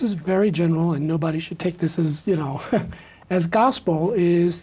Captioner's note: laughs